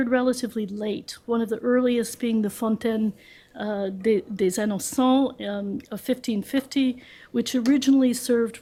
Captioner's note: french